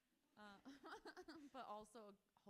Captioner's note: author laughs